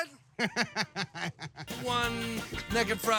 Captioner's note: chuckling